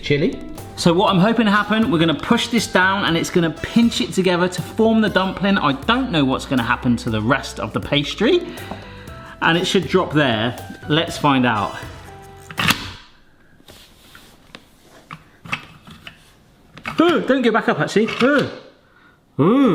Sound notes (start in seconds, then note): 12.7 mould clunks and snaps